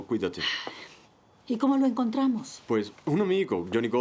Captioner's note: Freddie sighs